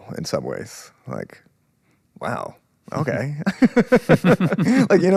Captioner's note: both laughing; laughs